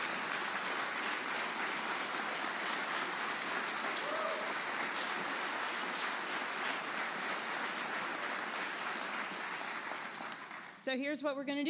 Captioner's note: applause